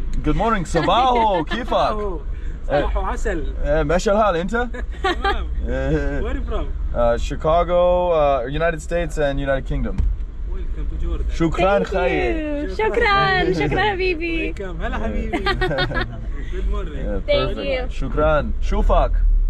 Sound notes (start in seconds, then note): 2.2 speaking Arabic